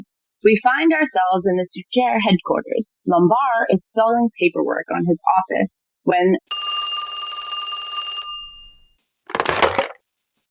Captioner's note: ring